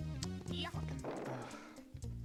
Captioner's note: cries like a big baby